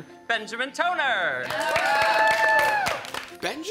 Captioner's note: all cheering and applauding